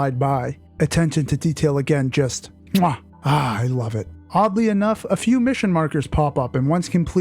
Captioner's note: chef’s kiss